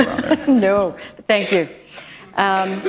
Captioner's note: chuckle